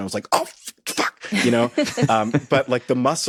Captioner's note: hosts chuckle